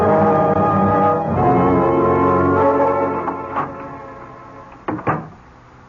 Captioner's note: door opens; door closes